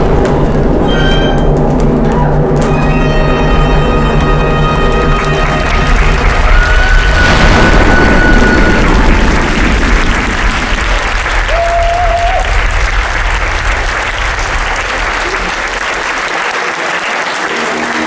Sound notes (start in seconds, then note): 0.2 music concludes; 6.5 applause and cheering!